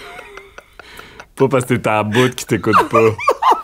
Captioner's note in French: éclat de rire